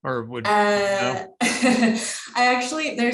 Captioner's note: chuckles